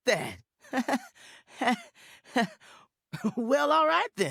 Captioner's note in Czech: trapný/rozpačitý smích